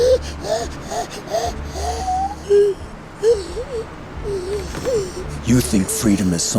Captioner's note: gasping